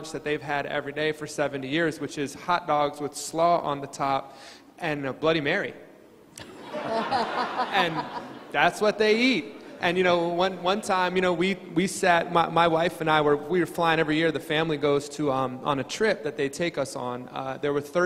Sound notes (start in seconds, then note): 6.4 crowd laughing